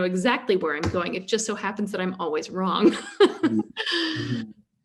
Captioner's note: laughs